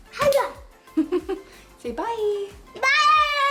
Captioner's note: upbeat music; laughs